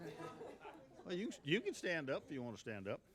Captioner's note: laughing